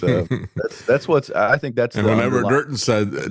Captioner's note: laughs